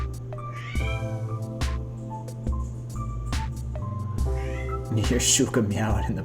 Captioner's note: meow